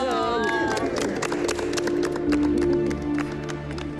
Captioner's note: applause